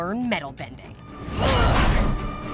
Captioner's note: grunting